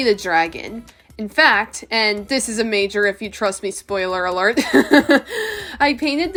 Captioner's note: laughs